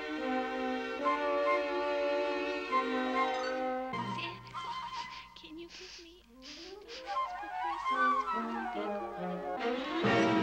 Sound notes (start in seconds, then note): 3.7 whispers; 4.6 sniffing